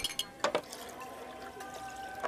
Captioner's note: glasses tinkling, liquids pouring